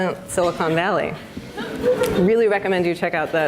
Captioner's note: audience laughs